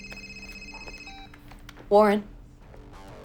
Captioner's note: phone beeps